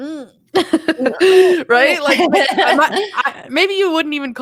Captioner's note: laughs